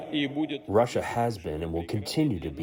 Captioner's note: through translator